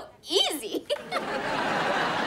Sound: laughs

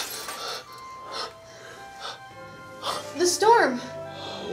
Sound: window shatters; boss pants

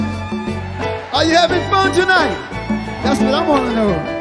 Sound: audience cheer

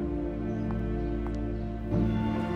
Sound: footsteps

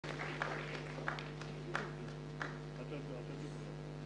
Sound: applause; non-english singing

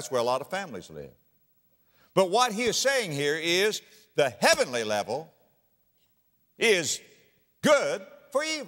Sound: slap

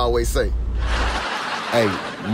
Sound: laughs

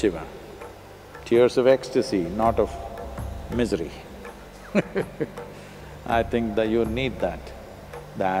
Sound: laughs

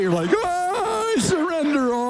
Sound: pastor yelling, gasping

